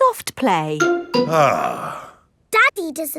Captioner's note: sighs